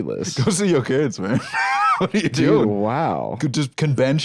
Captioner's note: laughs